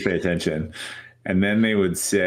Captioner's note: chuckles